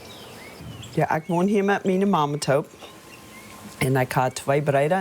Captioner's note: speaking foreign language